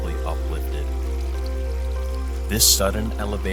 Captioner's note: water rushing